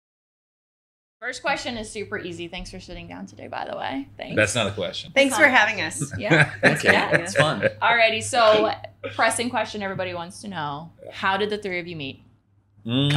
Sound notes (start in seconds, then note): 6.0 laughing